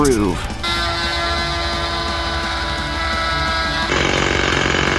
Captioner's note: drilling sound